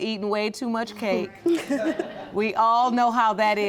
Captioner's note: laughing